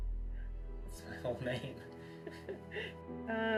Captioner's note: woman laughs